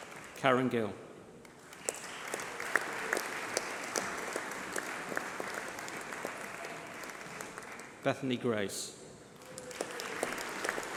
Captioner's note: applause